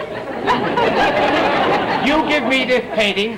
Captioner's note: audience laughter